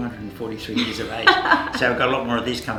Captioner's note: laughs